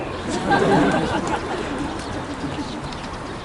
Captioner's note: laughter